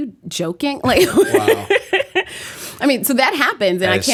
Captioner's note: laughter